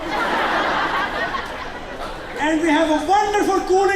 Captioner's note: laughter